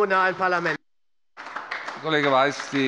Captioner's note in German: Beifall bei Abgeordneten der SPD